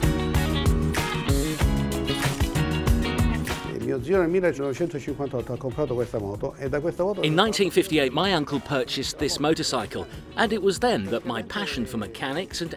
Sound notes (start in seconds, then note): 0.3 relaxing string music; 4.8 speaking foreign language